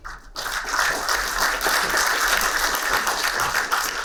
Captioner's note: applauding